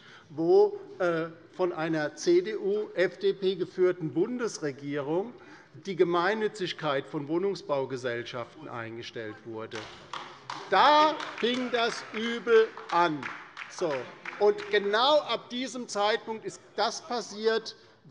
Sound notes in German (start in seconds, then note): 9.7 Beifall bei der LINKEN